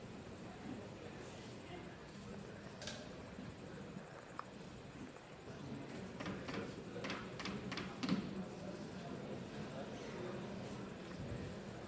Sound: hammers nail into wall

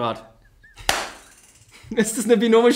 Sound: laughs

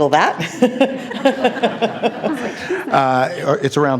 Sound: participants laughing

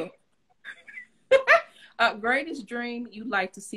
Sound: laughs

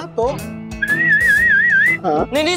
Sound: whistling

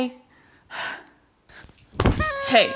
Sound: sighs

